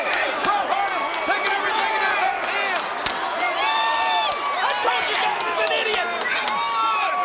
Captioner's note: applause